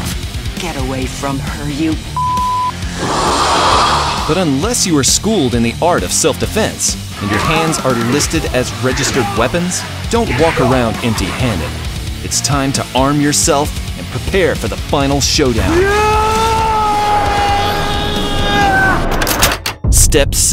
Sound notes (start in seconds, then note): 2.8 alien screech